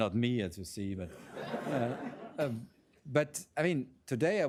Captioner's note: laughter